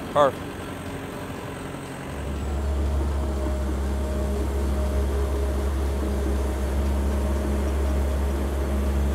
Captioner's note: engine noise